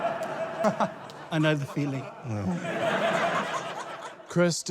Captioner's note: laughter; laughter